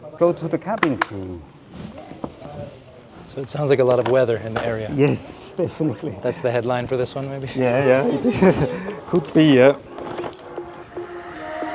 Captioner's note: laughs